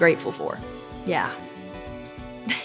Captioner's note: chuckles